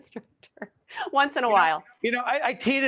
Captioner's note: laughing